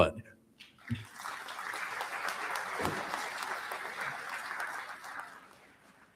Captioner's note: applause